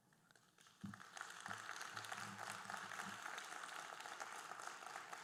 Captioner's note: audience applauding